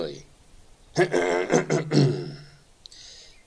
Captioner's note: clears throat